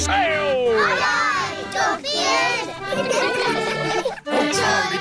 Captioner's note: giggling